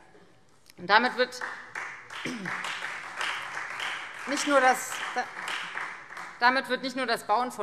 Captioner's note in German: Beifall Freie Demokraten